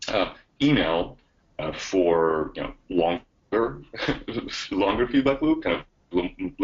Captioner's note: chuckles